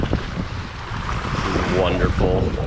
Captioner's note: water splashing